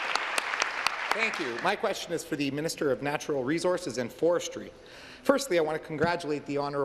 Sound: applause

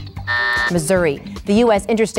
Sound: buzzer going off

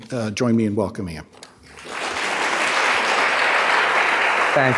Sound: applause

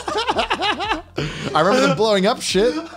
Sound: laughs

